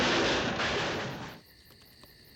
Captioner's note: <i> crashing</i>